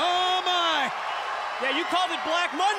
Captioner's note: audience cheers